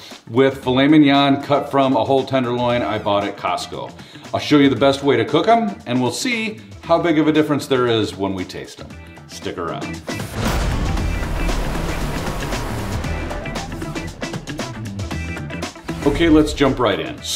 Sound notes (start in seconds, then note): 9.4 upbeat music; 10.3 air whooshing